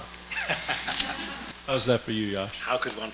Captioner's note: audience laughs